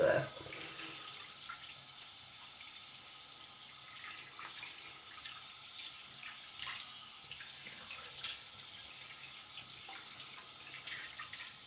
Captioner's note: water running